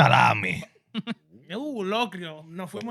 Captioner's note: speaking In Foreign Language